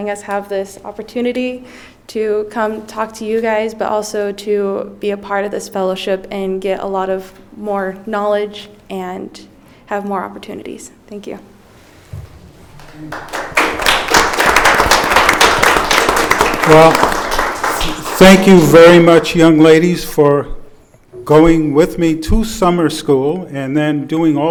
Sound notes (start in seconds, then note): 12.7 audience applauding